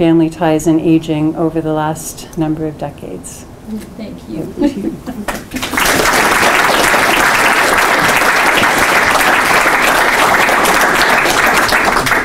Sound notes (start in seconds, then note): 5.2 applause